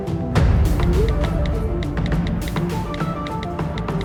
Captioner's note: phone texting